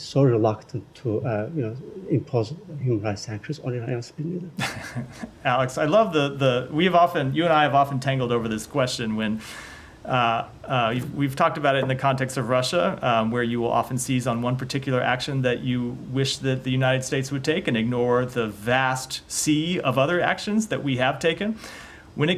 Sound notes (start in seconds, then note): 4.6 laughter